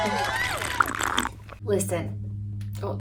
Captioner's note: audience cheers; slurps coffee